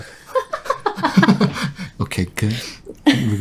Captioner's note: laughing